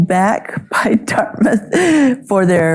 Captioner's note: chuckles